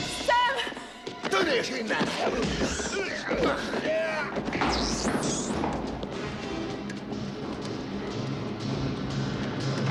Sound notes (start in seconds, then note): 2.8 squealing; 5.4 yells